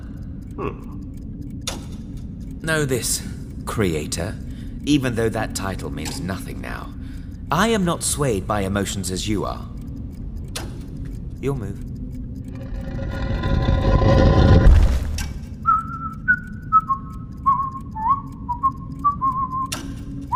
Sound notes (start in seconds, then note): 10.3 chess clock clicking; 12.5 something heavy dragging and thumping; 15.2 whistling a tune and clock ticking